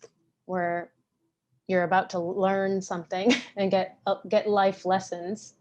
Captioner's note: chuckles